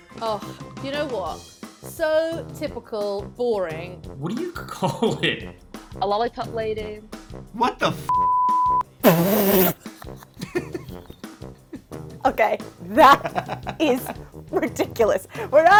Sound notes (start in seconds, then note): 4.8 laughs; 8.1 beep; 9.2 spit-laughs; 9.4 laughs; 12.8 laughs